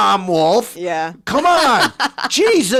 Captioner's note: laughing